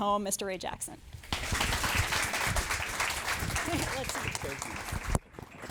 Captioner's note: audience applauding